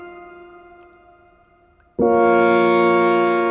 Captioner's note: wine drips